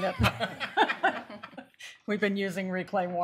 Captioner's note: laughter